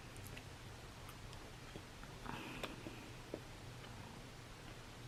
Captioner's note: chewing